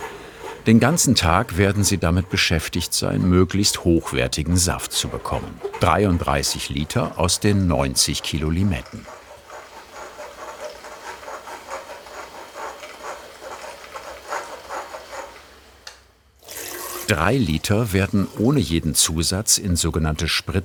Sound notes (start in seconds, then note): 9.1 scratching sounds